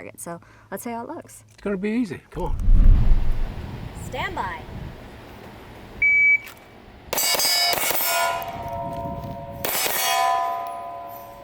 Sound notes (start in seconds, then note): 2.4 air whooshing; 6.0 alarm beeping; 7.3 shots firing at steel target